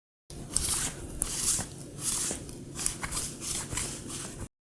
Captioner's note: lint roller rolling over Dingus